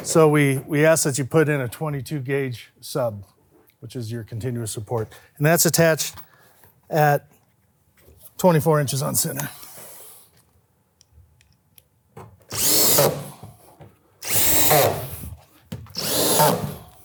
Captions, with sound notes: so we ask that you put in a 22 gauge sub which is your continuous support, and that's attached at 24 inches on center. (drill whirring)